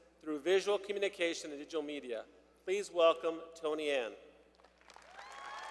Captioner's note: applause